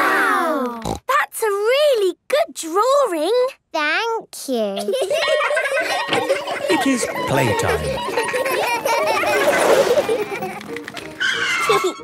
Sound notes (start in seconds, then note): 0.1 snorting; 4.7 laughter; 5.1 school bell ringing; 9.9 giggling; 11.0 brakes squealing